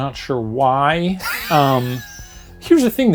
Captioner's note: laughs